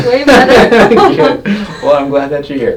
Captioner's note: both laughing